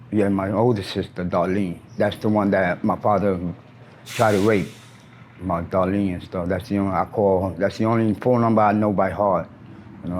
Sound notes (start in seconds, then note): 4.0 air brakes hiss; 4.6 engine idles